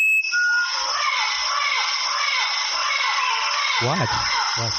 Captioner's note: parrot singing